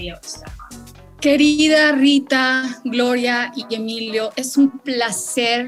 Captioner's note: speaking in foreign language